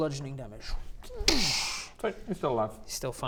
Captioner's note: dssssch